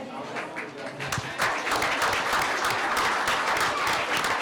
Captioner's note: applause